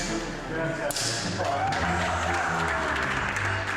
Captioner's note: applause